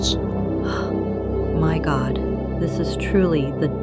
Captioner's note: gasps